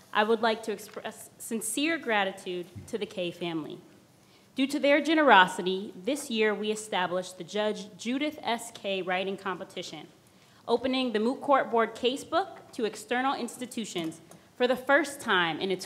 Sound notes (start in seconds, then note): none